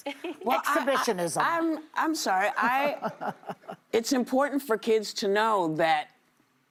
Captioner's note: laughter